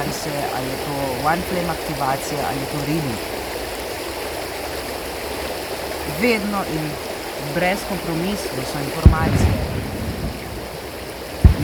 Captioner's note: cannon blasts; cannon blast